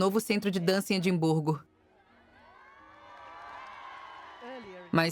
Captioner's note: crowd cheering